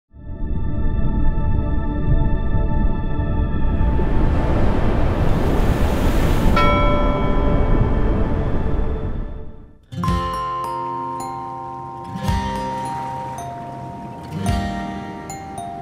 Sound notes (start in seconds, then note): 3.7 sound of rushing water; 6.5 a ship's bell rings